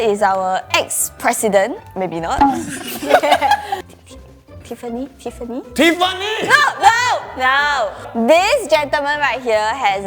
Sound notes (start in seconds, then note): 2.4 laughing